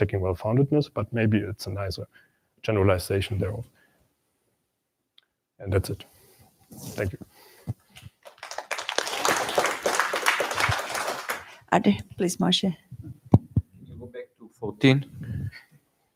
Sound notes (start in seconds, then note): 8.0 applause